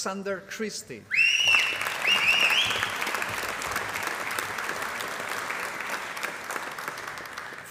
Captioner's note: applause